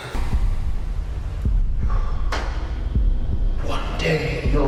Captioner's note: heart pounding